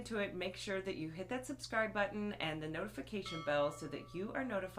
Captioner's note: chiming